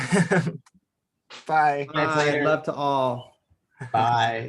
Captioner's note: laughs